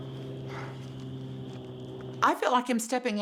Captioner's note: sighing